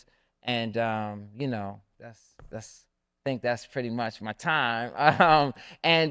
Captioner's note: laughs